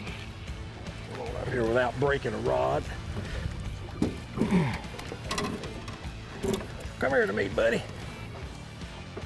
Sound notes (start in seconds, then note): 4.4 grunts